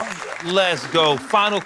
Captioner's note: applause